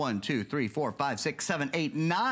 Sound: counting

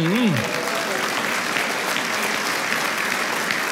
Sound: applause

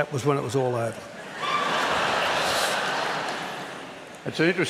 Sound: laughter

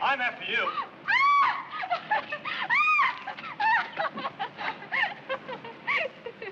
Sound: Gwyneth squealing and laughing

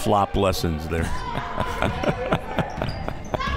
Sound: laughs

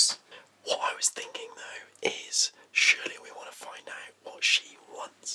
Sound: whispers

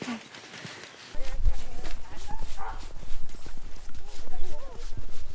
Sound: jacket rustling

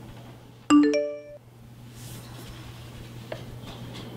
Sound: phone makes a sound

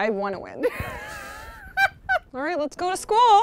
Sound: laughing

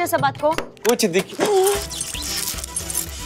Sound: teeth chattering

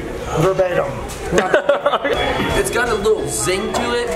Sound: laughing

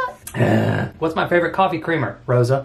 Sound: groans

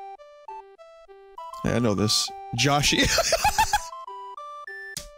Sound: laughter

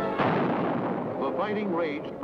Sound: dramatic orchestral music; bomb exploding

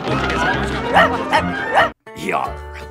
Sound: barking

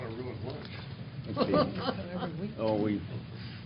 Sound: chuckling

